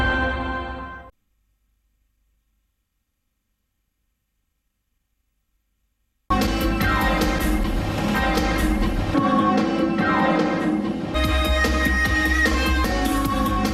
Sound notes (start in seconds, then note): 1.5 silence